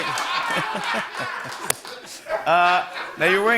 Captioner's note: laughter